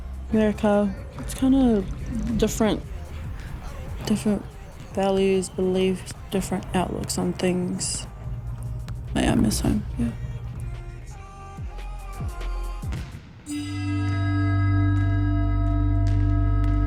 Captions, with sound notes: America, it's kinda different. Different values, beliefs, different outlooks on things. But I miss home, yeah. (bell chimes)